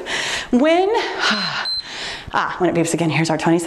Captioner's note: timer beeps